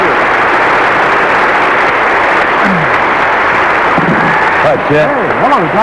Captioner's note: applause continues